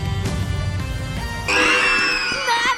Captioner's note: screaming